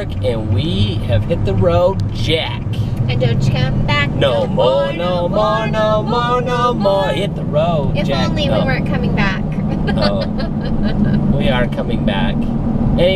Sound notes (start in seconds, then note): 9.6 laughing